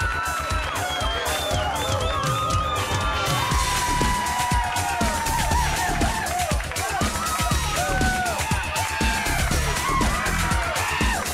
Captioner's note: crowd cheering